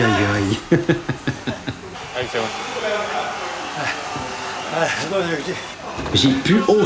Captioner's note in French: rire